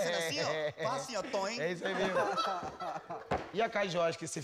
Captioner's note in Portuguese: risos